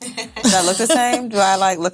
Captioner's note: chuckles